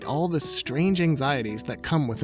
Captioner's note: none